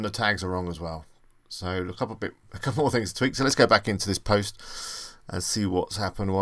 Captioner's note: inhales